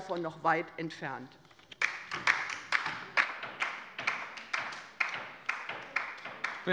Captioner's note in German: Beifall bei der LINKEN